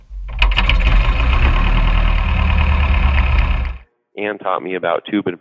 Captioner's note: plane engine rumbling